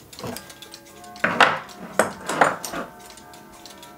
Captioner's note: the clock strikes in the background